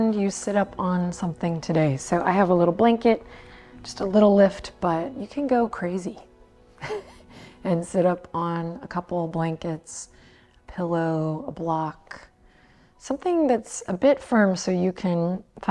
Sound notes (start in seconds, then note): 6.8 chuckles